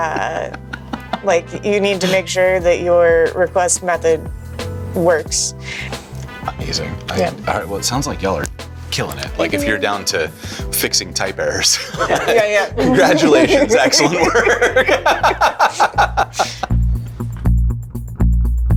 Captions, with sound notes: like you need to make sure that your request method works. Amazing. All right, well, it sounds like y'all are killing it. Like if you're down to fixing type errors. Yeah, yeah. Congratulations, excellent work. (laughing) (upbeat music)